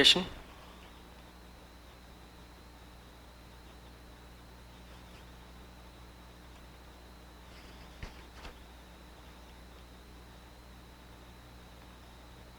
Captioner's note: silence